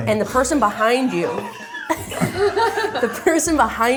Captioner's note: laugh